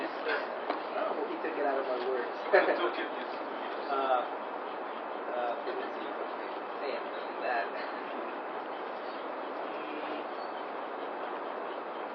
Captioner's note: konuşmalar